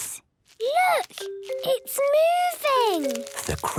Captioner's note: whispering